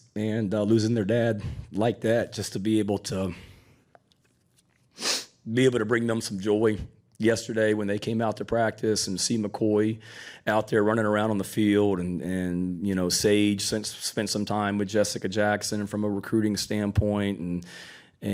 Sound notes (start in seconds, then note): 4.9 nose sniffling